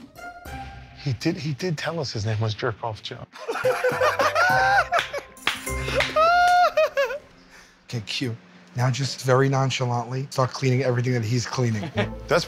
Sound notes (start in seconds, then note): 3.4 both laugh